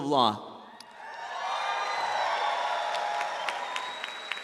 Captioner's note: audience applauds